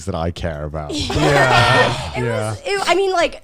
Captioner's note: all laughing